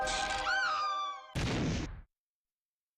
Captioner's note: woman screams